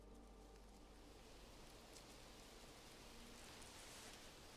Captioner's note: leaves rustling